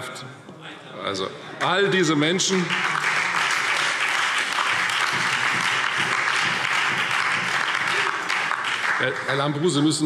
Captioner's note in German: Beifall Freie Demokraten, BÜNDNIS 90/DIE GRÜNEN und SPD